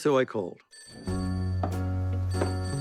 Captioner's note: phone rings